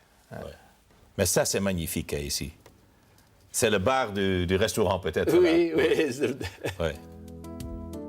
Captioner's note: laughs